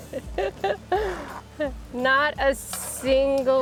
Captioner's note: laughing